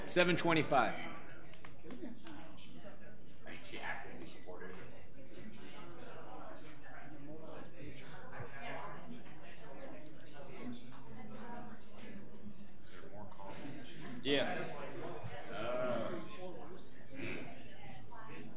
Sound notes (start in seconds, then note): 2.0 people chattering; 15.4 people chattering